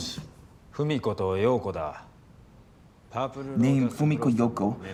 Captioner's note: speaking in foreign language